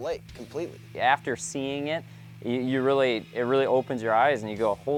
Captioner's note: voiceover